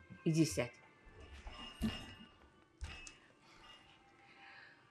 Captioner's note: pauses 12 seconds